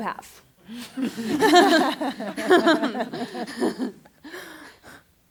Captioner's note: laughter